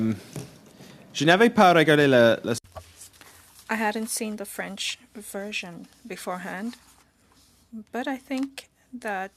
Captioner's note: speaking French